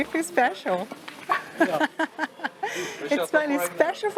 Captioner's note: laughs